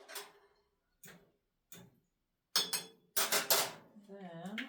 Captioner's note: stirs pot, clanks fork on pot, sets fork down with a loud clatter